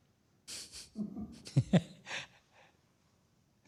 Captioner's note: laughter